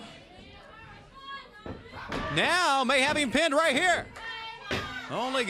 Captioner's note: crowd chatter